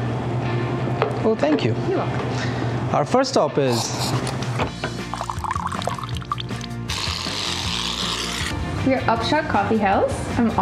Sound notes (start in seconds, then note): 5.0 coffee dripping; 6.5 whipped cream sounds